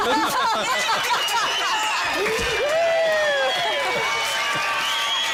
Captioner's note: cheers, laughter